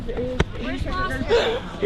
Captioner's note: laughter